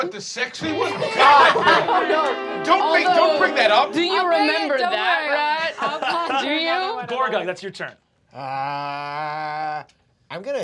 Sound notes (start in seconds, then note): 0.6 laughing